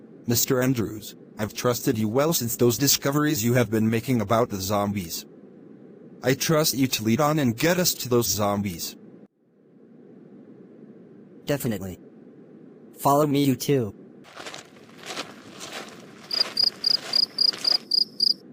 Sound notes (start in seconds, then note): 14.2 footsteps; 16.4 crickets chirp